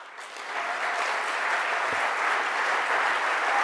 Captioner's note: clapping